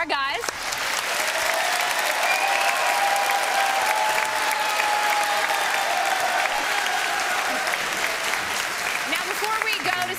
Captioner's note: applause